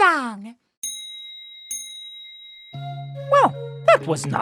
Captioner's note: dinging